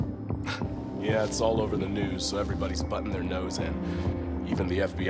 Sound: chuckle

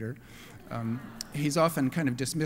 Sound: laughter

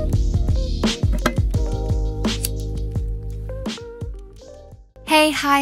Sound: lighter flicks

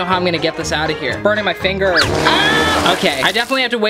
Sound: screams

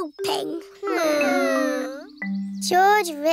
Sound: whining

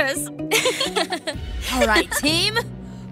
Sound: all chuckling

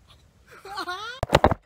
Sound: laughs in background

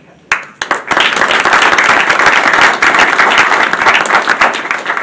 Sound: audience applauding

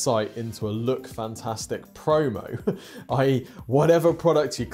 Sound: chuckles

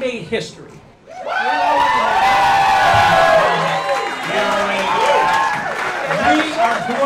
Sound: applause

